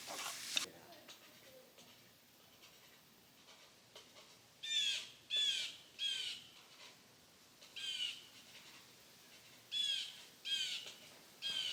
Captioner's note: sounds of nature